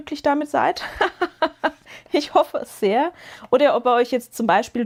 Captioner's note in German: gelächter